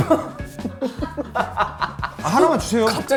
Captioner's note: laughing